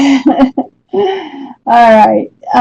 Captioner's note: laughs